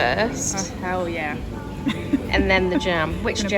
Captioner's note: laughs